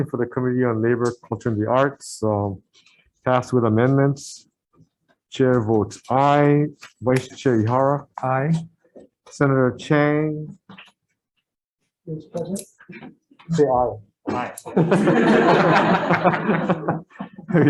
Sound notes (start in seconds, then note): 14.6 member laughing